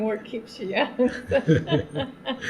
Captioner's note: laughter